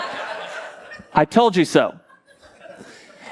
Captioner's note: congregation laughing